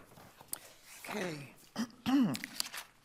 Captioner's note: clears throat